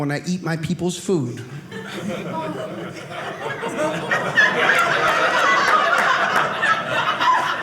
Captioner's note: audience laughing